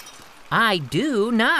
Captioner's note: glass shattering